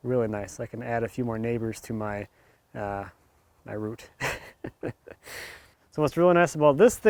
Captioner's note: laughs